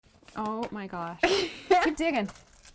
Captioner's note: girl laughs